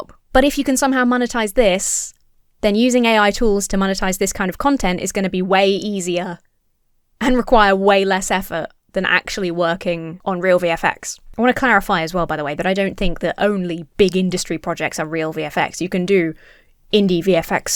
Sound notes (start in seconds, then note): none